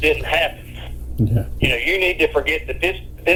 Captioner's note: chuckles